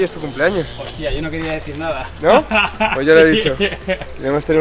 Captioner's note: laughter